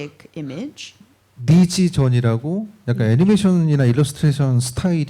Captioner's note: speaking korean